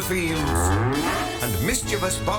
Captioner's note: moo-woof!